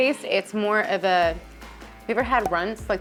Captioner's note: image popping